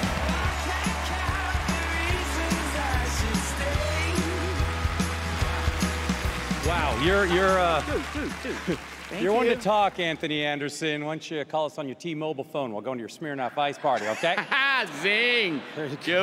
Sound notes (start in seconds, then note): 6.5 stammers; 7.8 mutters